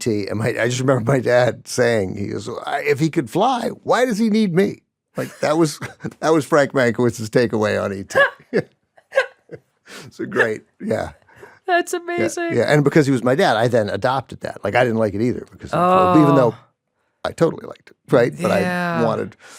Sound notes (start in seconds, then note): 8.0 laughs